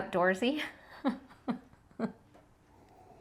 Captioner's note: laughing